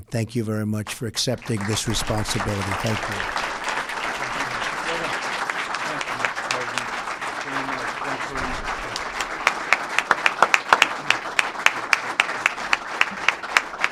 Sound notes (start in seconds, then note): 3.6 applause